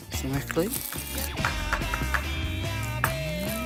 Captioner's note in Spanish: Golpes mortero